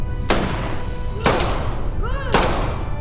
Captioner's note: guns firing; yelling